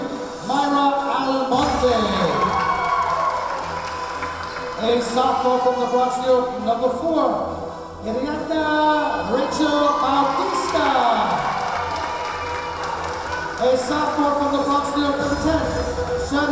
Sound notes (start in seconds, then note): 1.5 clapping; 2.6 cheering; 11.5 cheering; 11.5 clapping